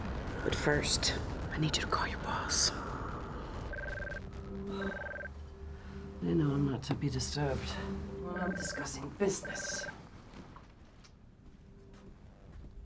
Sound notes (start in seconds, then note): 3.6 steady beeping; 9.2 beep-beep